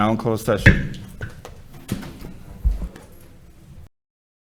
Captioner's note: gavel striking